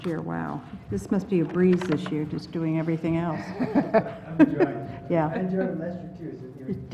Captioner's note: laugh